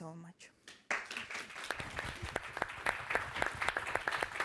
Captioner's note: all applauding